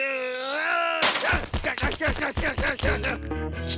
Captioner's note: groans; shouting; titters